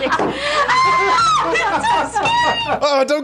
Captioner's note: screaming